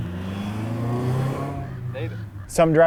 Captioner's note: car engine revving